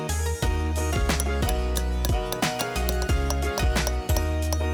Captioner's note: tool clanking